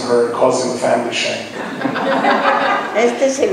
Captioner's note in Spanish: laughing